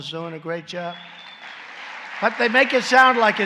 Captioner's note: applause